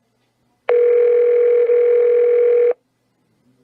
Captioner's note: phone rings